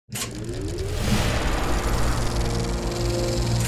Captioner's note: film reel spooling up